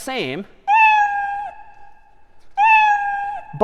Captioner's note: میو زدن